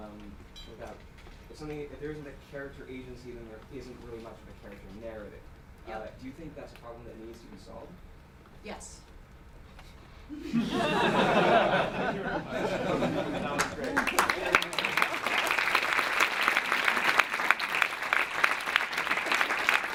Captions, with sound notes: without something, if there isn't a character agency then there isn't really much in the character narrative do you think that's a problem that needs to be solved? - Yes (laughing) (clapping)